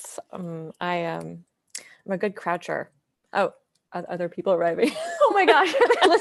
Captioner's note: laughs